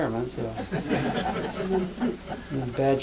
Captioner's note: laughter